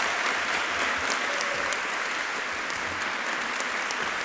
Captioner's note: audience applauding